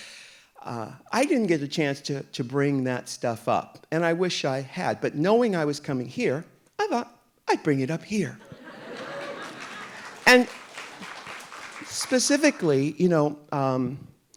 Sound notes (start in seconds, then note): 8.6 audience applauding